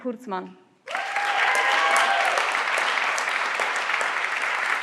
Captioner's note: everyone claps